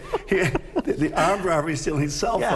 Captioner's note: laughter